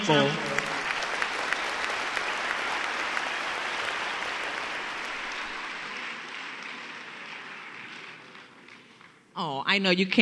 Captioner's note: applause